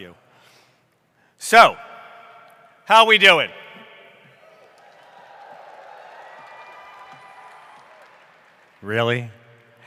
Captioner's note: cheering